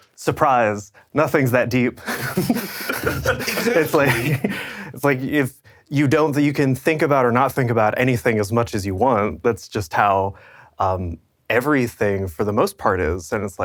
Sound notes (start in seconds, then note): 2.0 all laughing